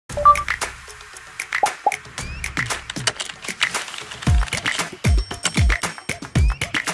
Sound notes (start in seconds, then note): 0.1 graphics beep; 1.5 upbeat music; 2.9 keyboard clicks; 4.2 upbeat music